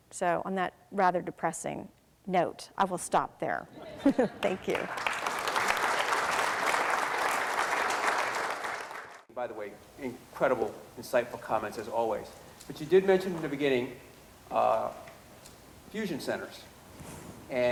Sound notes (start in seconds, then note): 3.8 crowd laughs; 4.3 crowd claps